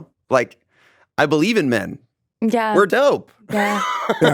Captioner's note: laughs